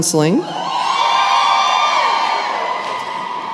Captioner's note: cheering